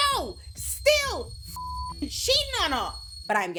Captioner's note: beep